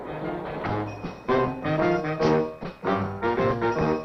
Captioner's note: bell ringing